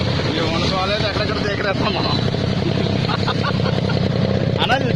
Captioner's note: laughing